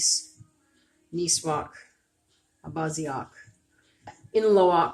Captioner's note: speaking Abenaki